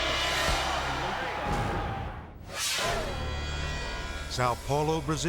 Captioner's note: crowd shouting